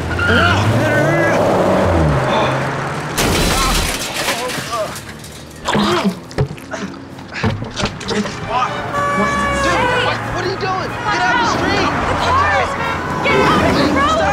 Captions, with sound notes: No, no, no, no. (crash) (dunk) (honking horn) - What are you doing? Get out of the street!